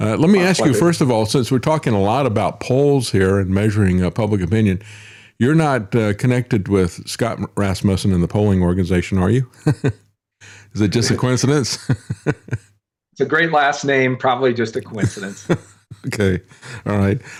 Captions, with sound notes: Let me ask you, first of all, since we're talking a lot about polls here and measuring public opinion, you're not connected with Scott Rasmussen in the polling organization, are you? (Laughs) Is it just a coincidence? It's a great last name, probably just a coincidence. Okay, all right.